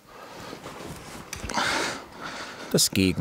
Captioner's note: exerted breathing